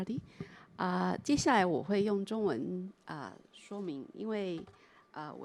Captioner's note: Mandarin